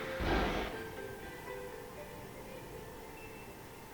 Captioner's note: thud